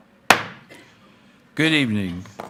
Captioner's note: gavel banging